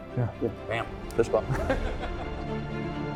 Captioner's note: laughing